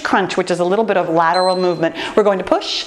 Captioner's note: timer beeping